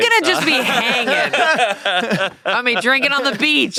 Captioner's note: everyone laughs